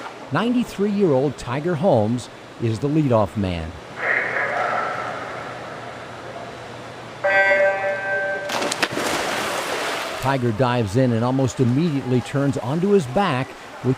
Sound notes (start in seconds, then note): 7.2 alarm buzzes